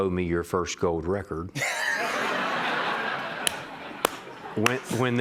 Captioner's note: laughter